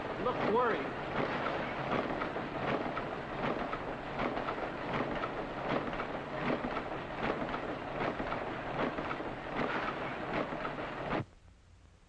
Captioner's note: factory noises